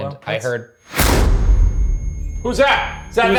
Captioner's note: REM-Pod beeps; eerie music